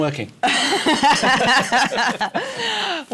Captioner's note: laughter